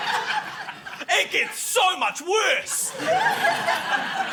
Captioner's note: laughter